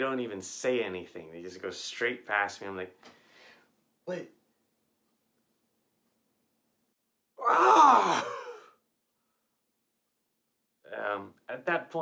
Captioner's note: screams